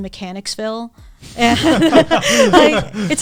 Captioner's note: all laughing